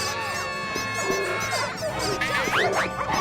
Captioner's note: all screaming; dogs barking; costumes squeaking; tires screech